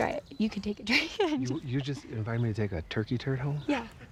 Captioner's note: laughs